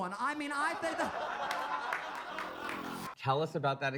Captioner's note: audience laughs